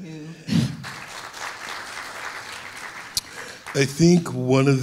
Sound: audience clapping

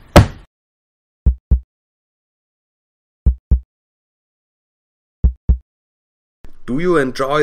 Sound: heartbeat

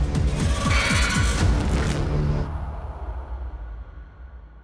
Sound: screams

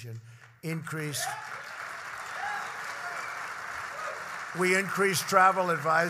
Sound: applause

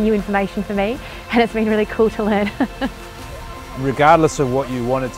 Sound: laughs

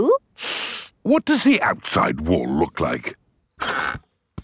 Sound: inhales sharply

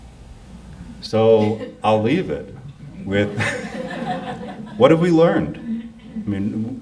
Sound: laughs

